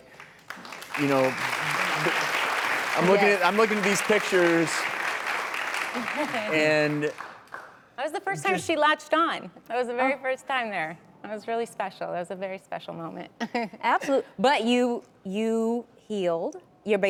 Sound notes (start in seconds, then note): 1.9 applause